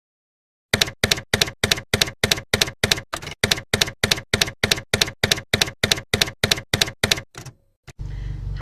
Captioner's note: typewriter keys clacking